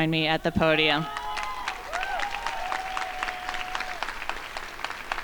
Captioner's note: crowd applauding